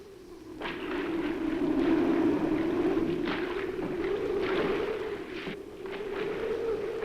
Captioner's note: wind howls; water splashes